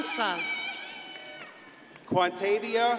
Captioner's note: crowd cheers and applauds